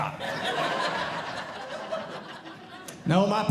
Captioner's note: audience Laughing